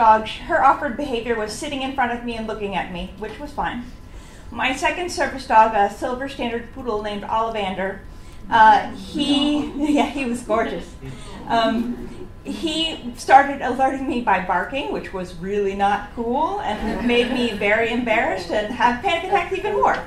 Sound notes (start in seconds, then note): 8.5 laughs; 11.1 audience "ooh"s